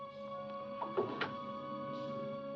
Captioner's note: ominous music; door closes; suspenseful music